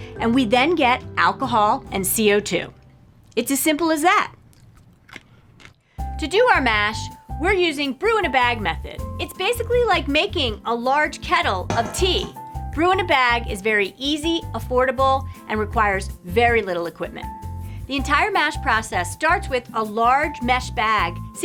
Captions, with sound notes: and we then get alcohol and CO2. It's as simple as that. [chews] To do our mash, we're using brew-in-a-bag method. It's basically like making a large kettle of tea. Brew-in-a-bag is very easy, affordable, and requires very little equipment. The entire mash process starts with a large mesh bag